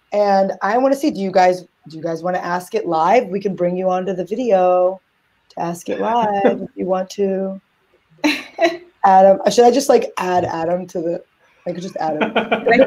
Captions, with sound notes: and I wanna see, do you guys wanna ask it live? We can bring you onto the video to ask it live if you want too... (laugh) Adam. Should I just add Adam to the, I could just add him.